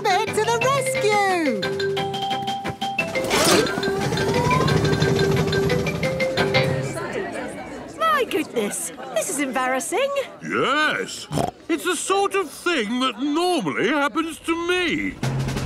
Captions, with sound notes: Miss Rabbit to the Rescue! (all murmuring) - My goodness, this is embarrassing. - Yes! (snorts) It's the sort of thing that normally happens to me.